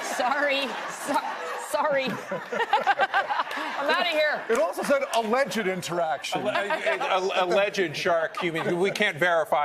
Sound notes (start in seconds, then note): 5.8 laughter